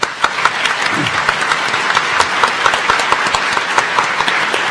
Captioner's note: audience applauding